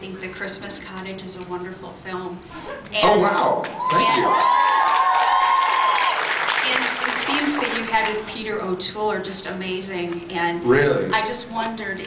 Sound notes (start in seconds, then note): 3.7 cheers